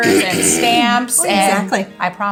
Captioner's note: clears throat